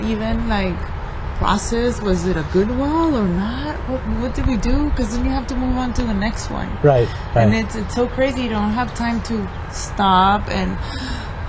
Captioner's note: exhales